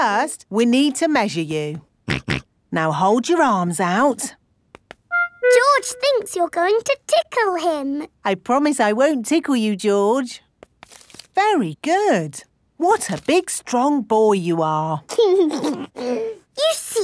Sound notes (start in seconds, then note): 2.5 snorts; 15.1 giggles